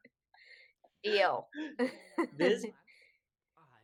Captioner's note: laughter